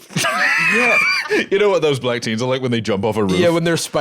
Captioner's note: laughs